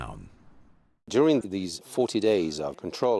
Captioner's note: voiceover